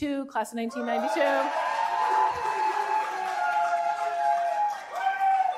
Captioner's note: cheering